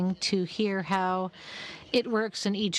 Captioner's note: speaking French